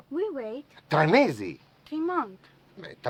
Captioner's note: speaking foreign language